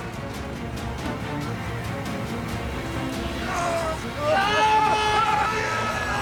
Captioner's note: intense music; pilots screaming